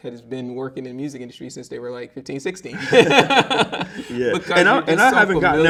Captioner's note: laughs